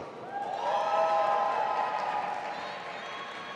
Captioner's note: audience applauding and cheering